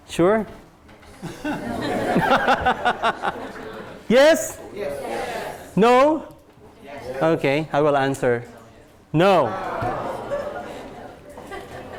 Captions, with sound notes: Sure? (laughs) Yes? - Yes. - No? - Yes. - Okay, I will answer. No. (class groans)